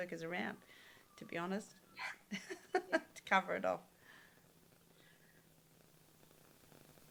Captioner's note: laughs